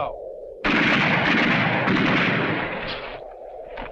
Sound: guns firing

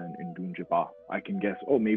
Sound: speaks foreign language

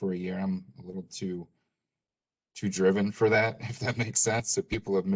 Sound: laughter

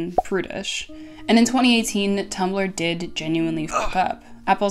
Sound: grunt

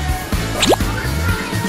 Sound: slip, Splat

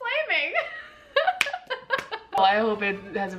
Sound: both laughing

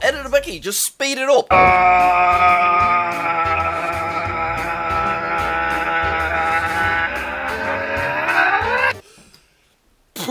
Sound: speed up screaming

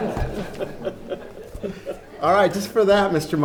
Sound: laughing

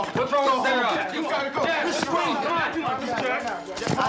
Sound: yelling and noise

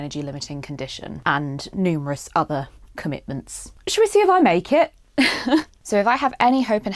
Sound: laughs

